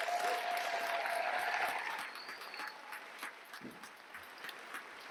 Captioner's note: cheers, applause